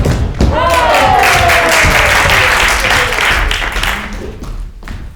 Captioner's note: crowd applauding